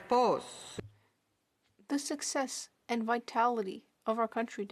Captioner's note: speaking French